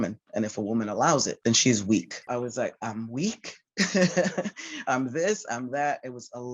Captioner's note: laughter